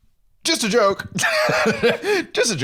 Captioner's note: laughs